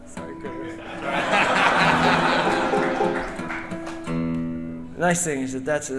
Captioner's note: audience laughing